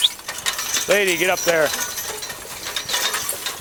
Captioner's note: whistles